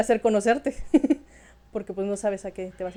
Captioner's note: laughter